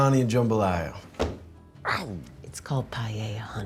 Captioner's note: hand slams